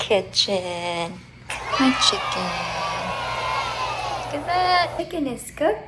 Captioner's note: kids cheering